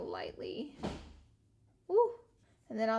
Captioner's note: something drops in the background